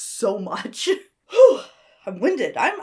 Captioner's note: sighs